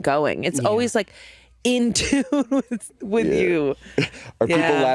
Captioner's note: laughing